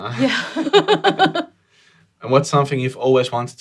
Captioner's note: laughs